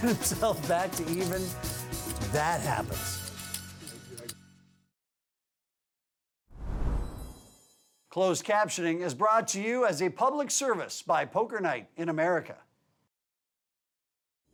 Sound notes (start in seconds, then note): 8.2 voiceover